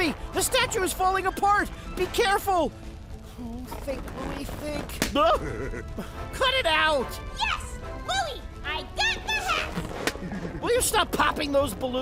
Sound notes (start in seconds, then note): 3.6 balloon pops; 5.1 chuckles; 9.7 balloon pops and bouncer chuckles